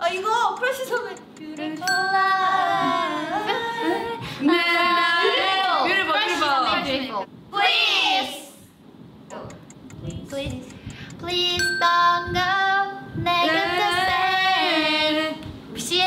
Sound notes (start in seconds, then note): 0.1 speaking in Korean; 1.8 bell rings; 4.4 everyone speaking in Korean; 12.3 sings in Korean; 14.6 bell rings; 15.9 speaking in Korean